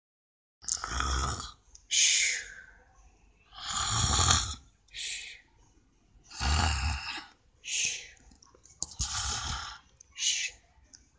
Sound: Bullseye snoring of a dream about a good day at Pop Station School

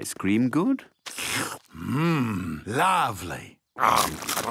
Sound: slurps

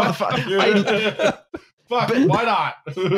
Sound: laughter

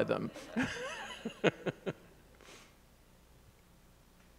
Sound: chuckles

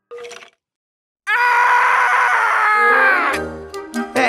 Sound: screaming

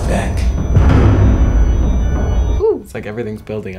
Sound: loud thud

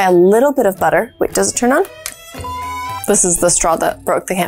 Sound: beeps

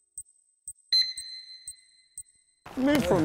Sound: counter beeps

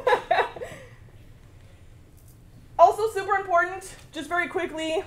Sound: laugh

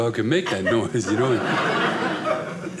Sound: audience laughing

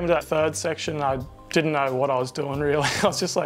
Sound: laughs

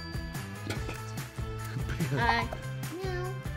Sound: laughing

